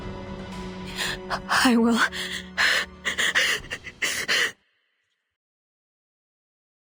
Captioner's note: cry